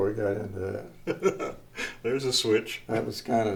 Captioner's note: laughs